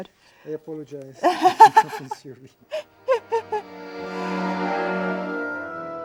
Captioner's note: laughs